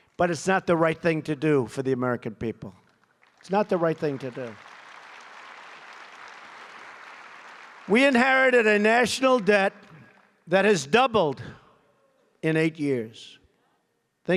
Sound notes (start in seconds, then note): 4.5 applause